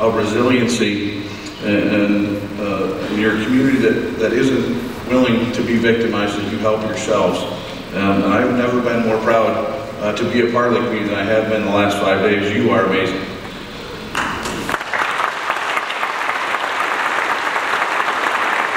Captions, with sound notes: a resiliency and you're a community that isn't willing to be victimized and you help yourselves and I have never been more proud to be a part of the community than I have been in the last five days, you are amazing. [audience applauds]